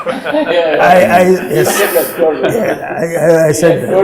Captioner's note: laughter